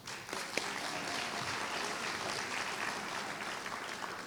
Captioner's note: applause